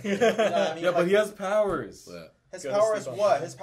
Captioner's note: laughing